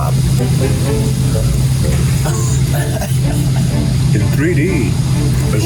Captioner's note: quirky music; laugh